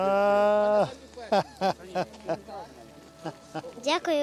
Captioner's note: chuckling